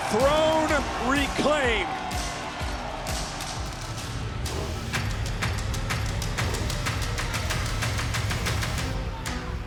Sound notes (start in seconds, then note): 3.3 audience cheering; 3.3 upbeat music